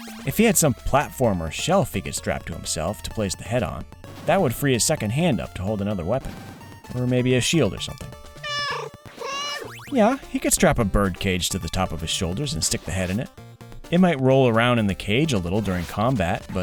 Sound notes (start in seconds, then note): 8.4 meow, meow